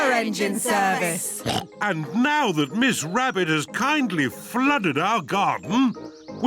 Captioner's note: oinks